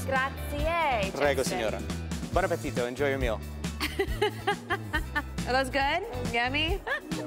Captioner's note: speaking foreign language